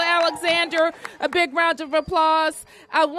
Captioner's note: applause